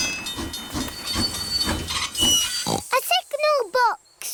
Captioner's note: tinging; oinks